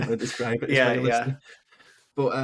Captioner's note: laughing